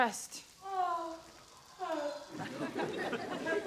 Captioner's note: Robyn moans; audience laughs